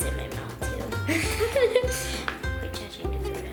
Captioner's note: laughter